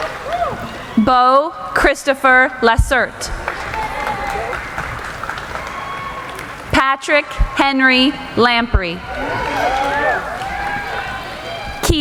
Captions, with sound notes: Boe Christopher Lesert. (applauding) Patrick Henry Lamprey. (applauding)